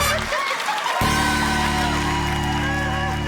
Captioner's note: laughter, cheering